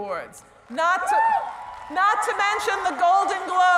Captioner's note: whooping